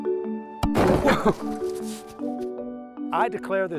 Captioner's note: loud explosion